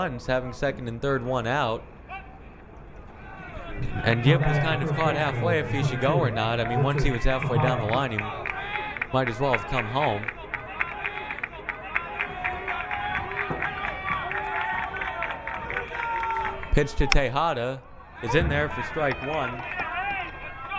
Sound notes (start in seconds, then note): 10.7 crowd cheering